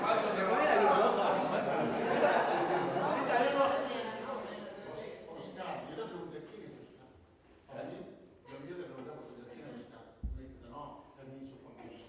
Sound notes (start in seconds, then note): 0.1 jokingly; 1.7 crowd laughs